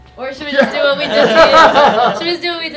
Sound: everyone laughing

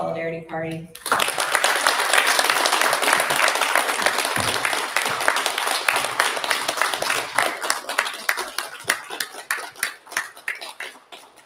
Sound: applause

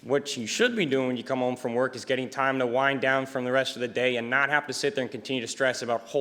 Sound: none

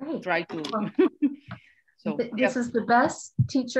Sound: laughing

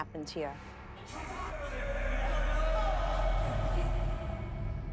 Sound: bickering

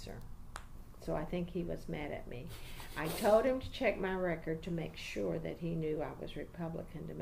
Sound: laughs

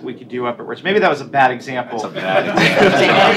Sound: laughter

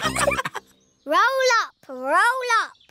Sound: all laughing

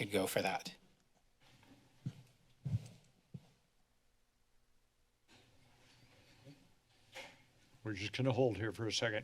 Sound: silence

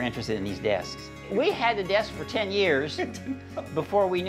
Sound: laughs

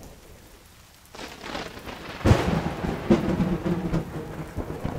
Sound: thunder

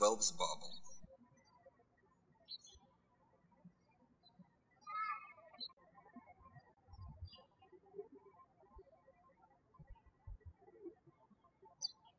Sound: birds chirping

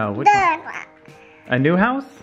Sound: speaks gibberish

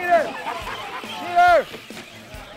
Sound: laughter

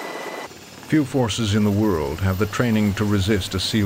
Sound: voiceover

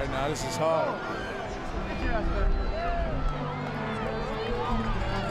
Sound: crowd cheering

